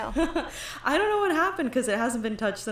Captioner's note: laughs